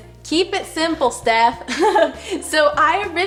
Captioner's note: laughs